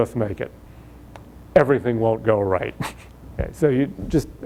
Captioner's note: laughs